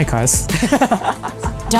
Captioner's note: laughing